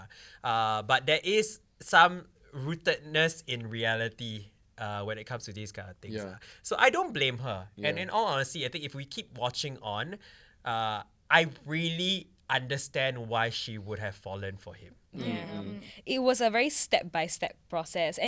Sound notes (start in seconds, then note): 15.1 agree in unison